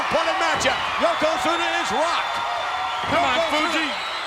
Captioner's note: audience cheers